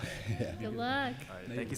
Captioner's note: laughter